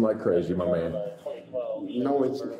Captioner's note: radio chatter